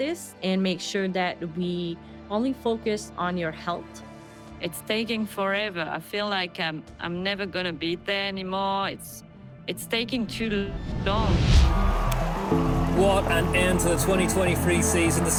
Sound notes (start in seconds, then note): 11.5 crowd cheering